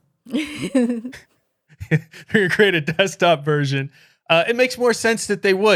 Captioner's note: laughing